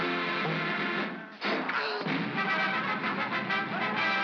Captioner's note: thunk; Barnaby gasps; pop; triumphant music